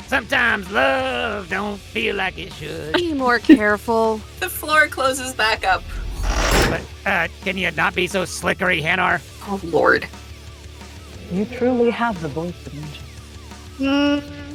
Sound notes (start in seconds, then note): 0.5 sings; 5.5 sliding metal